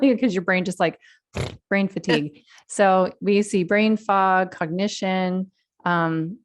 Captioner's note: mouthing sound